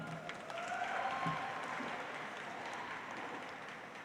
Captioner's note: audience applauds